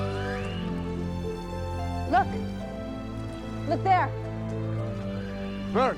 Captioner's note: distant wildlife sounds